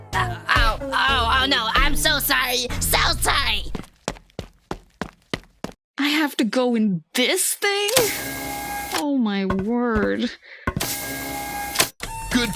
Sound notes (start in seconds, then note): 3.6 running sounds; 9.8 walking sounds; 10.8 mechanical sounds